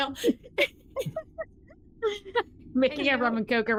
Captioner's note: giggling